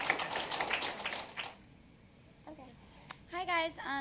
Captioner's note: applause